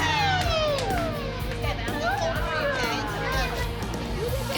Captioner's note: cheering